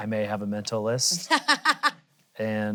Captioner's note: laughs